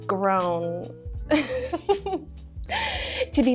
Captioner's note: giggles